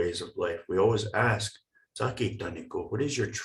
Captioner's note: speaking in foreign language